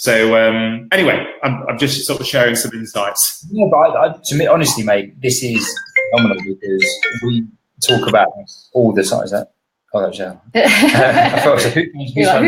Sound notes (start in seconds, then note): 5.5 computer ringing